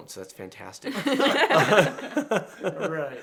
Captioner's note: everyone laughs